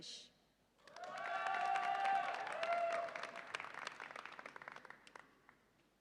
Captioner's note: audience applauds and cheers